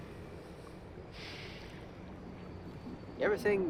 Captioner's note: sigh